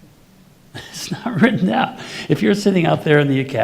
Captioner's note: laughing